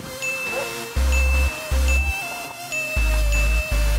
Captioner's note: bells chiming